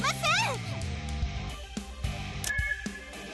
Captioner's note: radar Alarm